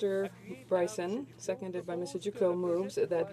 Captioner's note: speaking French